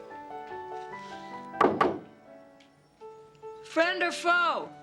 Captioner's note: knock at door